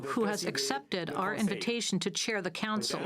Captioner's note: speaking French